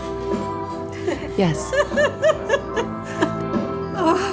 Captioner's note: woman laughing